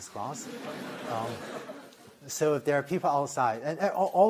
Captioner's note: laughter